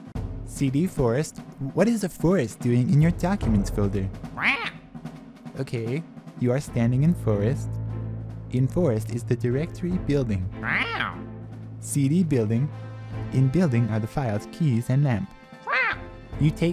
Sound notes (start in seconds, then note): 4.3 defensive squawks; 10.6 commanding squawks; 15.6 commanding squawks